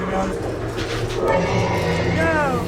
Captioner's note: growling